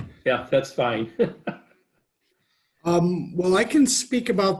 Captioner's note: laughs